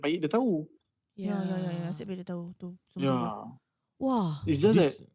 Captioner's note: agree in unison